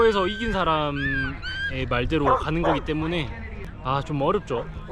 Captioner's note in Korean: 개소리